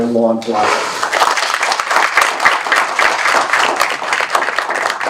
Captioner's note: applause